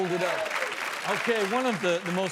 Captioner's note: audience applause